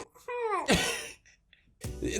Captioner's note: laughs